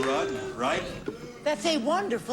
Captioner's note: audience booing